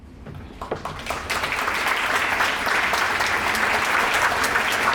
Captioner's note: applause